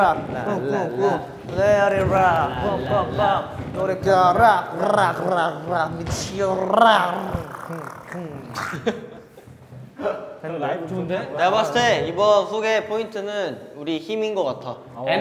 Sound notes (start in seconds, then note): 7.8 ending with gargling